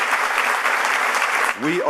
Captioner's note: applause